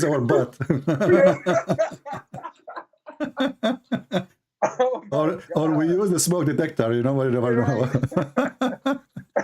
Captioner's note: Ketawa